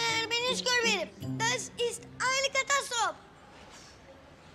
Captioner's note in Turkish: Almanca konuşma